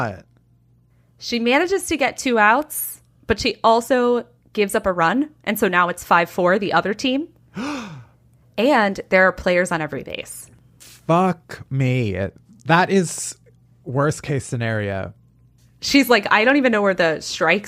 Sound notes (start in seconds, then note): 7.5 gasps